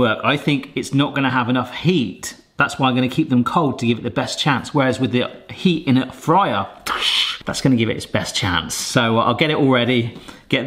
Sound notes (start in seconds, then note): 6.8 mimics clashing